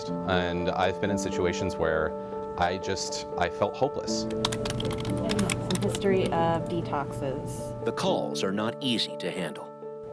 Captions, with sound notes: and I've been in situations where I just I felt hopeless. ( sound of typing) - The history of detoxes. The calls are not easy to handle.